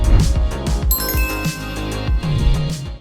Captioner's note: bright music; bell chiming